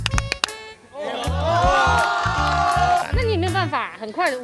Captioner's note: the crowd goes wild